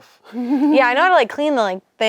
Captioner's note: laughs